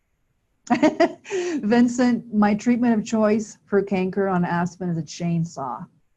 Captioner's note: chuckle